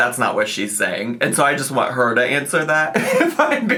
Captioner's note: laughing